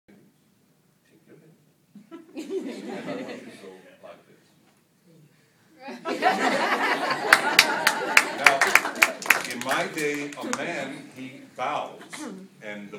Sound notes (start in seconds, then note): 2.7 laughter; 7.2 clapping